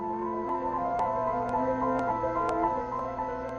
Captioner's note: A train passing through a station; classical music playing in the background